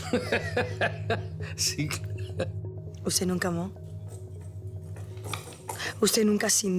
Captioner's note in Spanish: Risas